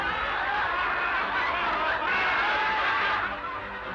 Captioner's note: audience laughing